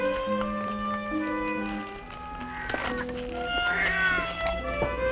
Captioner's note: cat Meowing